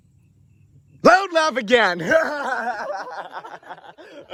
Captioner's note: laughter